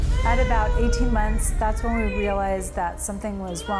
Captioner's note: child crying